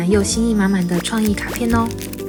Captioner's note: Squish